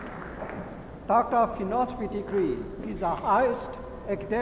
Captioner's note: applauding